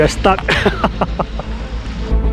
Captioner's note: nervous laughter